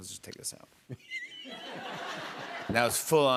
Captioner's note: laughter